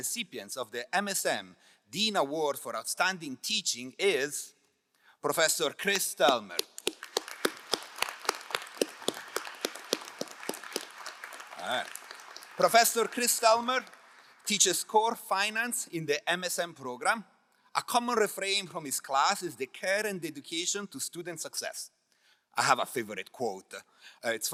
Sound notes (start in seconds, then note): 6.2 crowd applauding